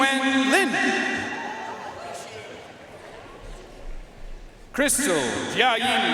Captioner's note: audience cheering and applauding